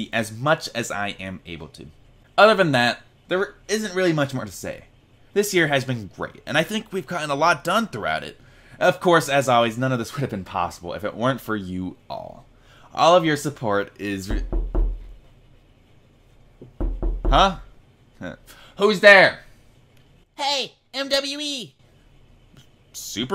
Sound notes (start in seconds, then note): 16.6 knocking